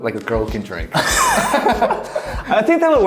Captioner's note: both laughing